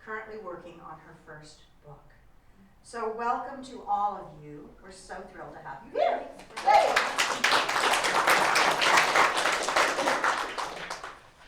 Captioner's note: applause